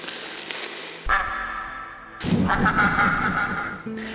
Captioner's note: duck quacking